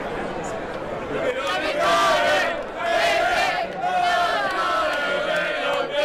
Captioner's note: crowd chanting